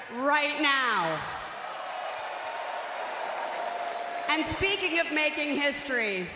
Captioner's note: crowd cheering